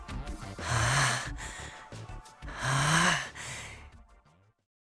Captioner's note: very very strained breathing